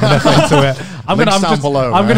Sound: laughs

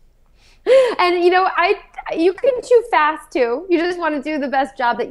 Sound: laughs

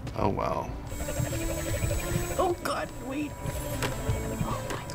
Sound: ninja star whirring; whispers

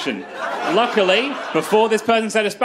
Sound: crowd laughs

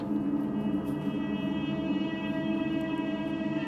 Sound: eerie sounds

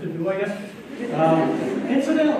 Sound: laughter

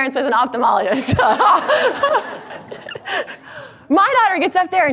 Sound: audience laughs

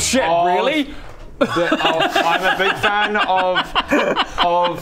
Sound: maniacal laughter

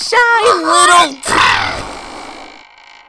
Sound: sneeze

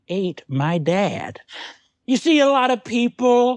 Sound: weighted gasp

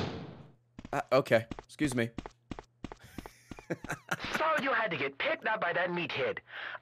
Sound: laughs

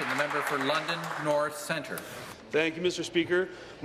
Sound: applause

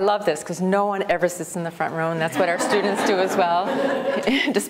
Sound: laughter

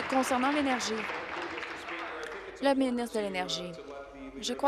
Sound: applause

